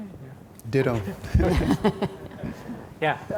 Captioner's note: chuckles